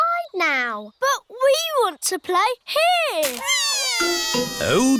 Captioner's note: crying